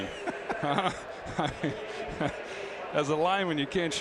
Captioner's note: laughs